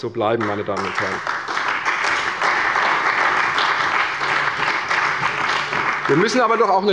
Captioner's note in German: Beifall bei der CDU und dem BÜNDNIS 90/DIE GRÜNEN